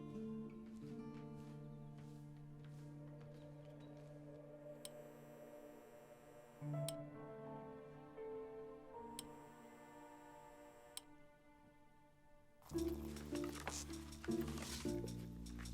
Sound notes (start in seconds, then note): none